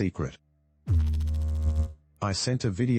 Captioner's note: electrical noise